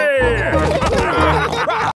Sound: all laughing

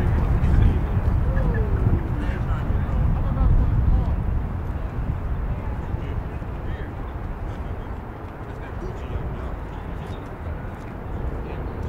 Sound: crowd chatters

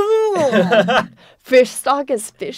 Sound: laughs

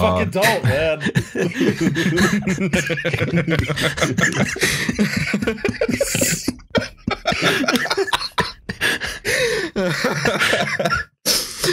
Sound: laughter

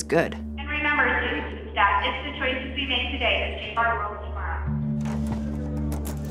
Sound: PA system

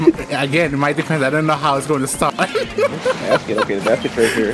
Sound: laughing

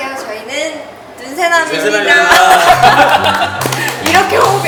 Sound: applause

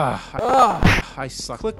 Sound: groaning

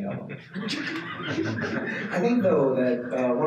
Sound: participants laughing

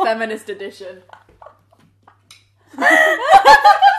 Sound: laughing

